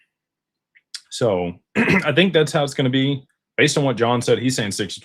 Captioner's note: clears throat